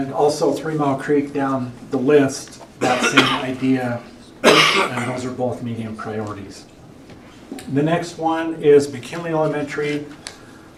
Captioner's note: cough